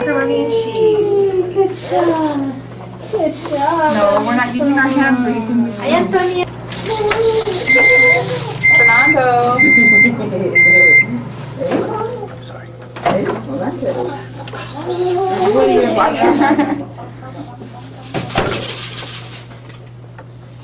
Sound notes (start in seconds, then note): 7.2 microwave beeping; 16.7 laughing